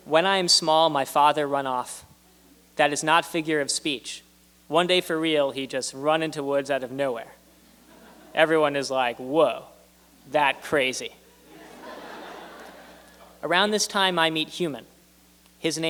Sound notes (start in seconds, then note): 11.3 laughter